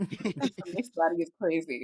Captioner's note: laughter